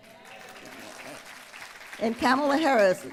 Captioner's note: applause